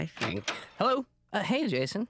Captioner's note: door opens